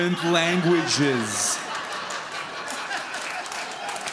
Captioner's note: audience laughs